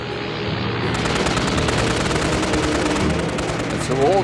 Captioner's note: guns firing